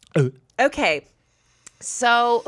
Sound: gulping

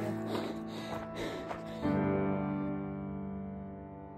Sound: panting

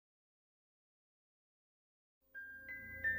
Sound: silence; relaxing music plays

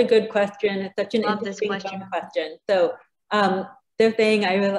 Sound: both chattering

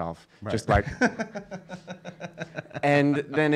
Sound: laughing

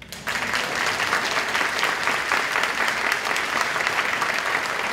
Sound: applause

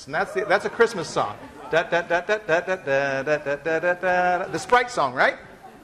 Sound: humming tune

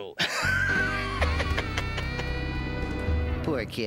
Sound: laughs sinisterly

